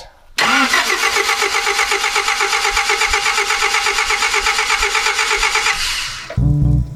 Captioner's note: car cranking, but not starting